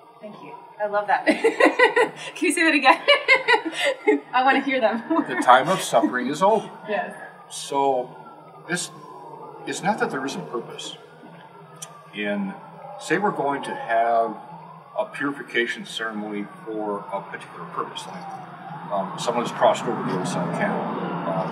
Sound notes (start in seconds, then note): 1.2 laugh